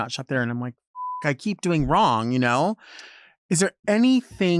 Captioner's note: beep